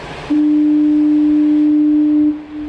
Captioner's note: foghorn